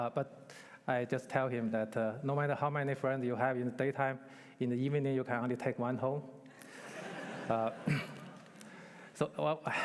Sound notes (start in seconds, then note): 6.6 laughter